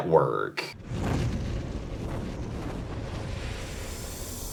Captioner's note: logo whooshes